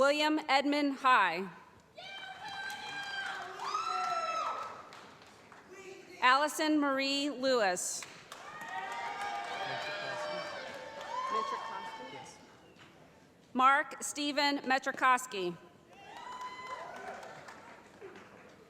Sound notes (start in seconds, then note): 2.1 voiceover; 3.9 cheering; 8.3 cheering; 15.9 cheering